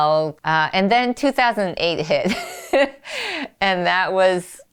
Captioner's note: laughs